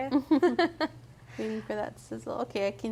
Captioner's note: both laughing